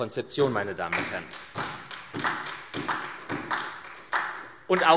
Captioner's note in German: Beifall SPD